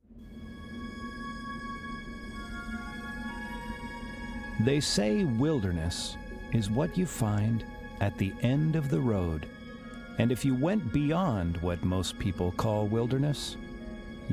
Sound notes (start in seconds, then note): 0.1 wondrous music; 4.8 voiceover